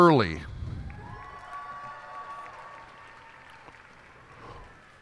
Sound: cheers and applause

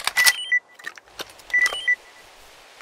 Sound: notification

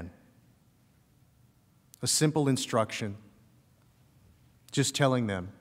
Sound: shouting

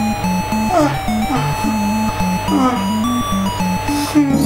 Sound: sobbing quietly

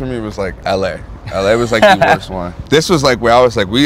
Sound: laughter

